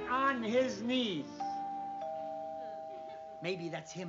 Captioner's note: doorbell